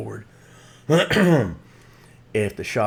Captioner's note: clears throat